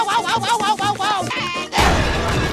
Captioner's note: woahing; crying